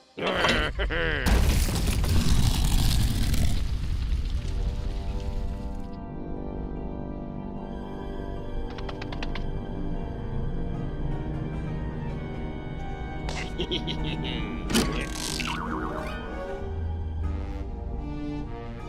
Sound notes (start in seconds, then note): 4.3 haunting music; 8.7 scurrying feet; 15.4 boing